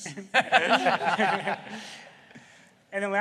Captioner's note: laughter